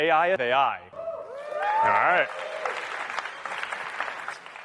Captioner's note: applause